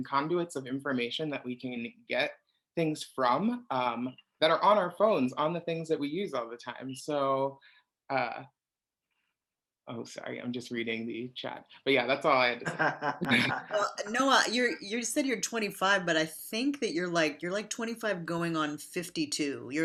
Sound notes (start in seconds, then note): 12.5 laughs